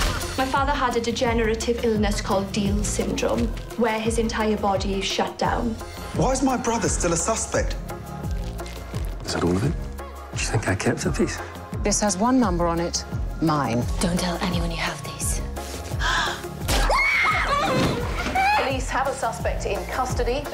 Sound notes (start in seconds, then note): 16.0 gasps; 16.7 screams